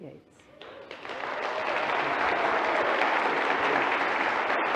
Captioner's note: audience applauding